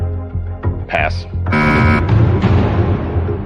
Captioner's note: buzzer sounds